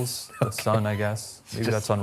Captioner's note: chuckles